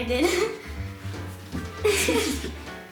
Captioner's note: laughs